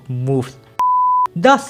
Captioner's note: beep